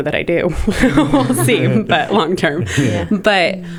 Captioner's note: laughter